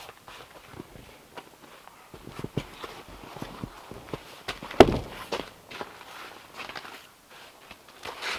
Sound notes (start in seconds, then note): 4.8 log thumps